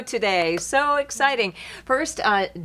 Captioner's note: clapping